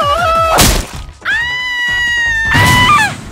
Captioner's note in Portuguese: Grito aterrorizador